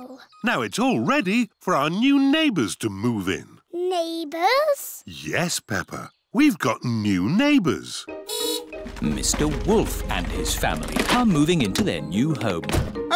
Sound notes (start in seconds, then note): 8.2 horn beeps